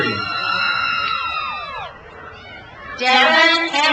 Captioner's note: crowd cheers